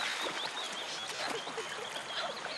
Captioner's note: both laughing